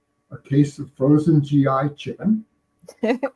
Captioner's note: stoner laughing